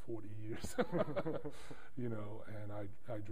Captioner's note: laughter